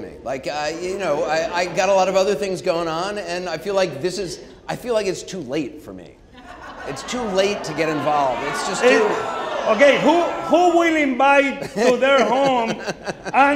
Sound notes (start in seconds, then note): 8.5 audience laughing and booing